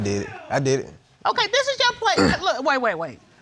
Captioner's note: clears throat